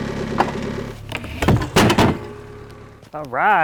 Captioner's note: wood clatters